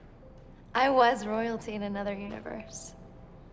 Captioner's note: none